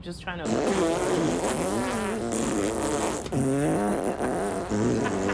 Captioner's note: both men make farting noises